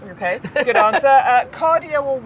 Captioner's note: Gary laughing